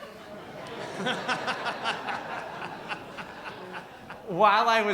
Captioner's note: audience laughs